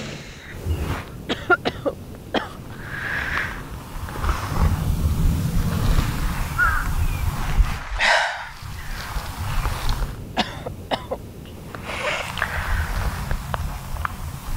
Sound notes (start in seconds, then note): 1.3 Jane coughing